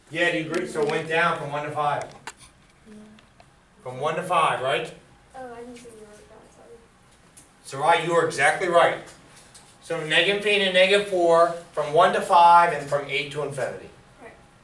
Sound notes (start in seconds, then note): 0.0 student speaks softly; 0.3 voiceover; 5.8 voiceover; 6.7 speaks softly; 14.5 voiceover